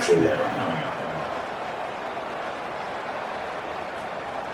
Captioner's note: crowd Noises